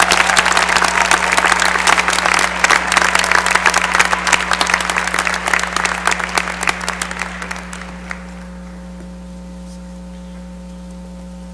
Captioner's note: cheering and applause